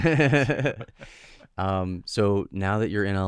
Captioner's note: laughing